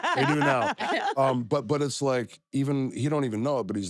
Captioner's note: laugh